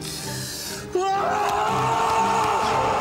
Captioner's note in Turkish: Bağırıyor